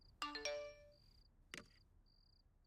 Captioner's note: mobile chimes